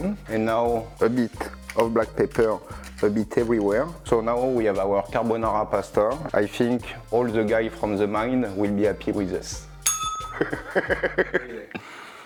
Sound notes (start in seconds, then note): 9.8 bell rings; 10.3 laughs